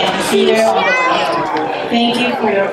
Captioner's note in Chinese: 嗚嗚